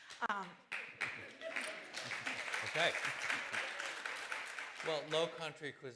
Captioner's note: applause